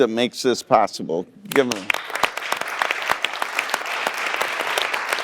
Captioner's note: audience applauding